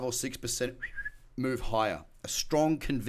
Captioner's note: whistles